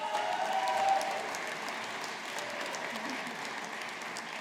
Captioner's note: audience applauding